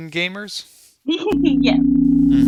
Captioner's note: laughing